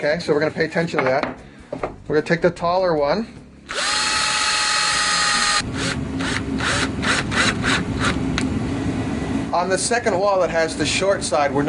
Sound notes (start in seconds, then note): 3.7 motor whirring